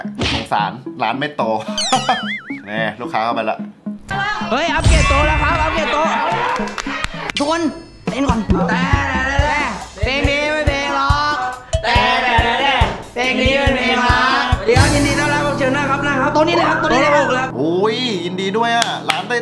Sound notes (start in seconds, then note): 1.6 chuckles; 5.5 cheering